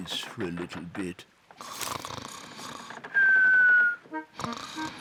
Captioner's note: snores